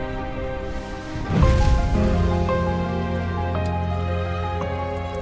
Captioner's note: rustling intensifies